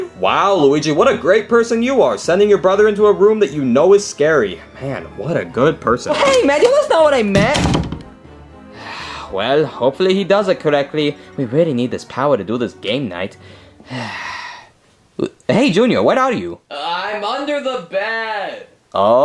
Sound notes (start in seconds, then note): 7.2 door thuds; 8.8 Luigi sighing; 13.8 Luigi sighing